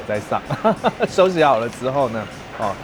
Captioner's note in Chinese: 愛開玩笑的笑聲